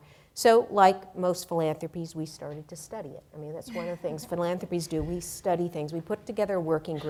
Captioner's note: laughter